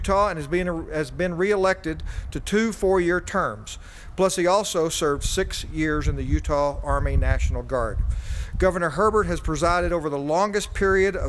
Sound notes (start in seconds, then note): none